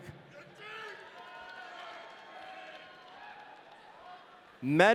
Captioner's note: audience cheering